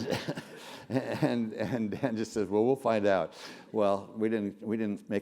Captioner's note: laugh